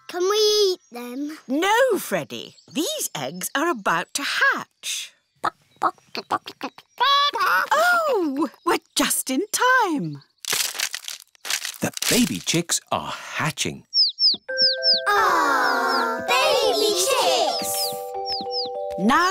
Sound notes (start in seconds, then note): 5.8 clucking; 13.9 chicks cheeping